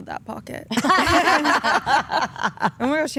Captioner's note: group laughing